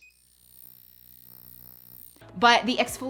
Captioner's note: machine beeping; machine whirring